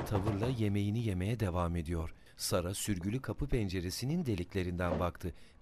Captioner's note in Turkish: Kapı vurma sesi; Ayak sesi; Tahta bölme açılma sesi